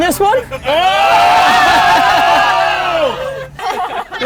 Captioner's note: group cheers